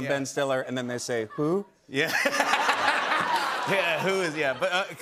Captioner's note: laughter